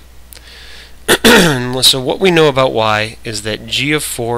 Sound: coughs

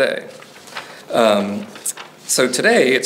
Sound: pages rustling

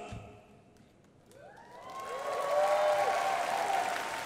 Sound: crowd applauding

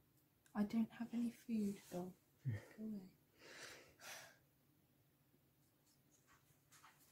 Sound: sigh

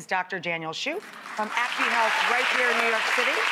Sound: audience applauds

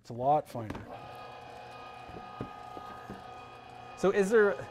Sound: machine roaring

